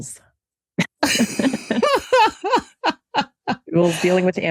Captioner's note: laughter